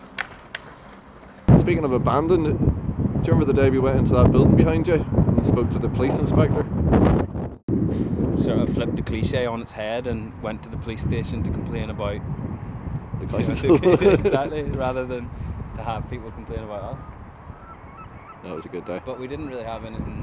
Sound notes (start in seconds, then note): 13.4 both laugh